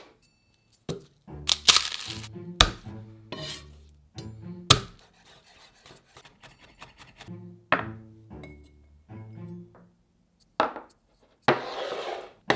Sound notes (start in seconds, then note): 1.4 garlic paper rustling